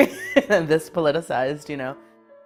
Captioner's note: laughs